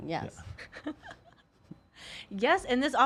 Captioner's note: laughs